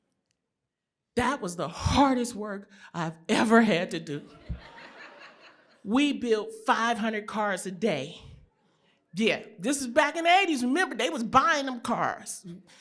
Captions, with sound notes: That was the hardest work I've ever had to do. [LAUGHTER] We built 500 cars a day. Yeah, this is back in the '80s. Remember they was buying them cars.